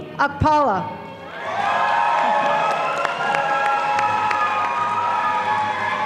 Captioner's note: audience applauding